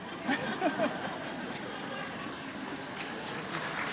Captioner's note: laughter